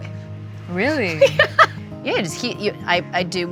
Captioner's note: laughs